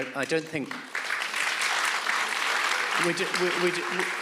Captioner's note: audience applauds